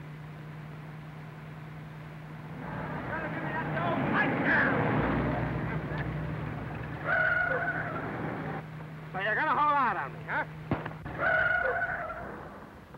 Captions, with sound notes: [screaming] So you're gonna hold out on me, huh?